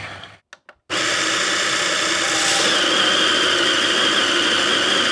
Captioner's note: grinder grinding